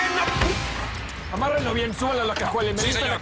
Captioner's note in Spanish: Golpes